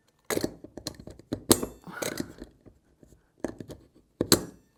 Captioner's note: metal clanking repeatedly